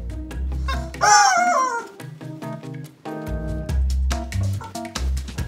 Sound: rubber chicken squeaks; upbeat music

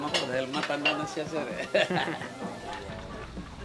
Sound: chuckles

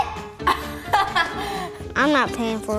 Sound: laughs

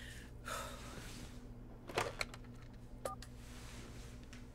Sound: Claire exhales sharply

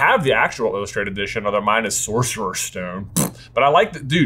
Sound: razzes

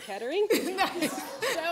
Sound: laughter

